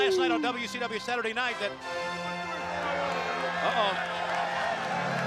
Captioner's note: crowd chatter